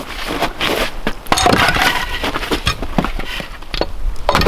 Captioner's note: wood cracking